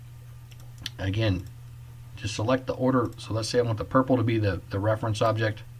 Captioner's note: click